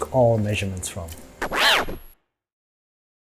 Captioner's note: scratch